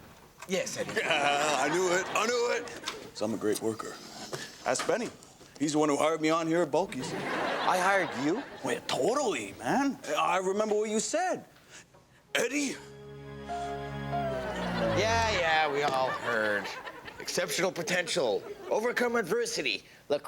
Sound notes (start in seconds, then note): 7.0 audience laughs; 12.3 inspirational music; 14.2 audience laughs; 14.2 record winds down